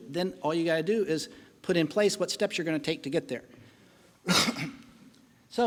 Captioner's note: coughing